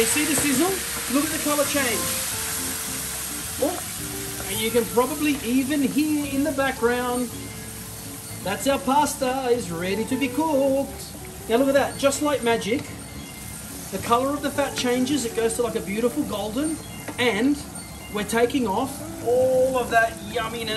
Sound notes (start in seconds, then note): 7.5 timer trills